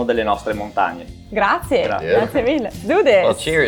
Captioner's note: speaking in foreign language